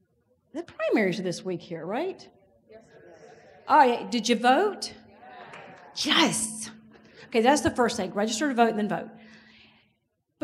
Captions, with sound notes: The primaries are this week here, right? - Yes. - Did you vote? (audience agrees) Yes, okay, that's the first thing, register to vote and then vote.